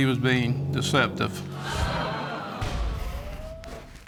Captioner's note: audience exclaims